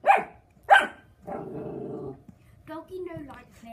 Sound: dog barks thrice; dog growls

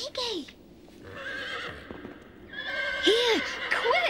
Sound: horse neighing

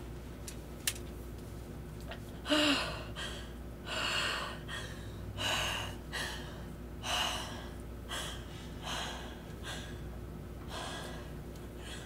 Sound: breathing heavily

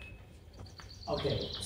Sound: sound: birds

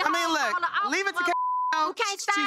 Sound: beep

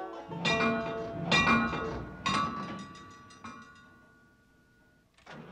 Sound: iron clangs

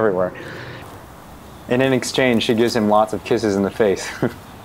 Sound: laughs

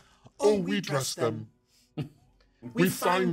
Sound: speaker chuckles

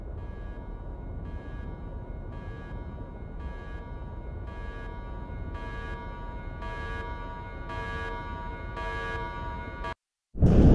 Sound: warning Alarm; distant Explosion

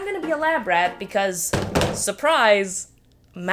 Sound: diploma banging the table

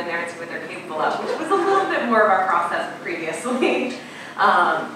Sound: laughing

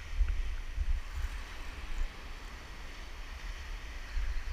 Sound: waves crashing

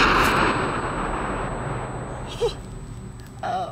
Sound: ringing

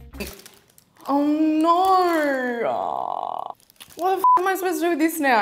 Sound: beeps

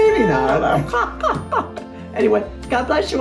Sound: laughs

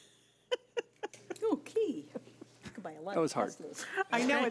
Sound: board laughing

